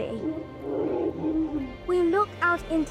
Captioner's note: elephant grunting